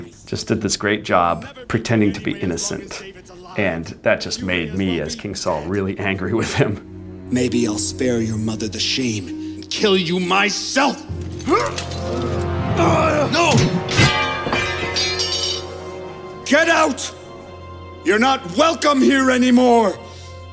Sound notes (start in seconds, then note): 12.2 grunts; 13.4 metal clanging